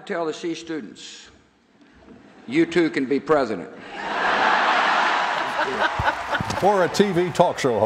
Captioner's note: laughter